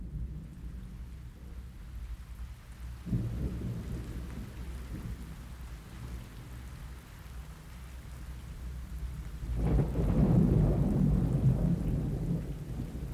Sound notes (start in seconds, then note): 0.8 rain falling; 9.7 thunder rolling